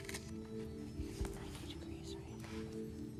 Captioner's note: whispering